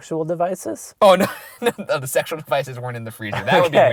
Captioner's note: voiceover